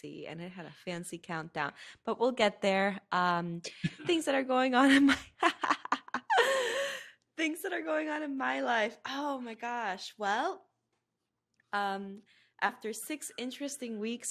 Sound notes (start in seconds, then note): 5.4 laughing